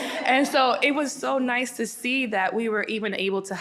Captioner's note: audience laughing